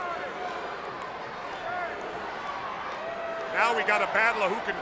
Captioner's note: crowd clamoring